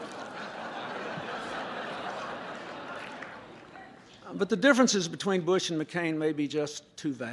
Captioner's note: laughter